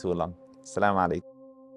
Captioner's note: Arabic